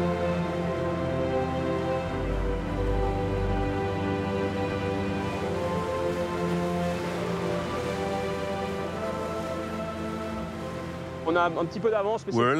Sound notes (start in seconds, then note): 6.7 water splashing; 11.0 speaking in foreign language